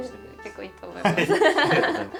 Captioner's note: laughs